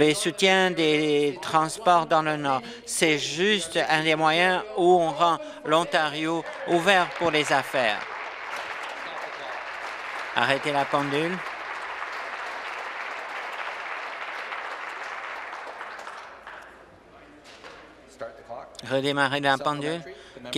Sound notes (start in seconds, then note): 8.9 applause